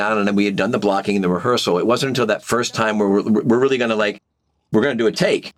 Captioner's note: none